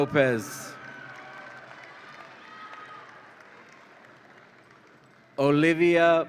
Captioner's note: audience applauds and cheers